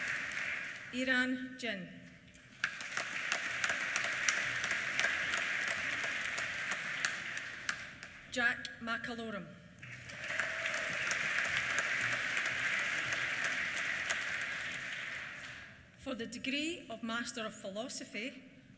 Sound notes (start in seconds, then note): 2.4 applause; 9.8 applause; 9.8 cheers